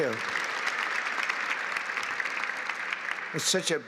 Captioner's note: applause